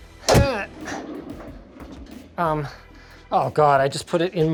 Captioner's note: grunting